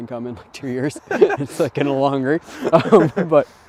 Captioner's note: both laughing